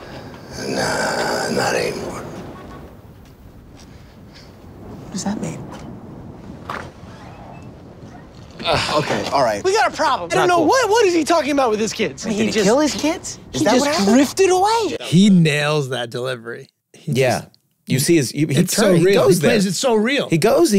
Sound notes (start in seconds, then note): 2.4 car honking; 6.6 door opening